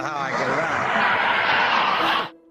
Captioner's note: laughing